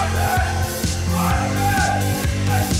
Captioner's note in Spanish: mas gritos